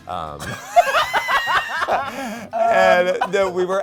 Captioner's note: both laughing